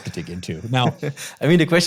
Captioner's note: chuckling